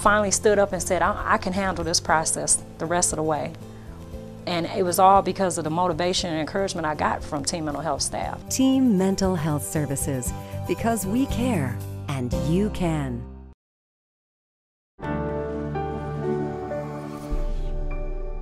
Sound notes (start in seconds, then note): 9.0 voiceover; 15.0 bright news music